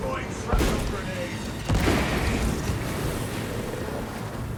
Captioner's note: gunshots